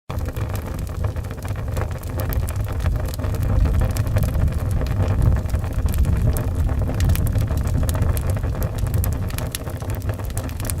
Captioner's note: crackling fireplace sound